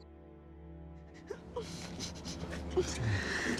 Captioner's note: sobbing